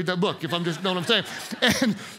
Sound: congregants laugh

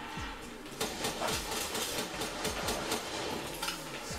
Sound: gun firing

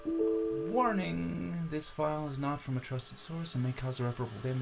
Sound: computer notice sound; laptop fan whirrs louder

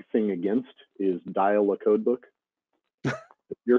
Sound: chuckling

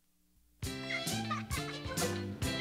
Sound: Panky laughing

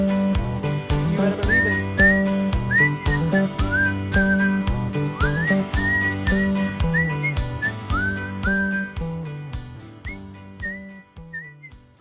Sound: whistling

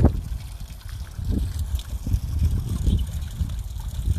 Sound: splash

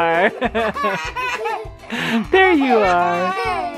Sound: laughing

